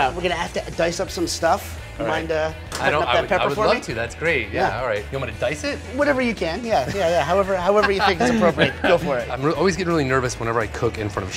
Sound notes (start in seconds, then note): 7.7 laughter